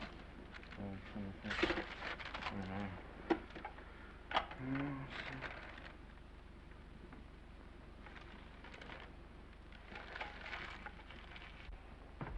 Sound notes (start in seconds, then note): 1.9 page ripping; 9.5 paper crinkling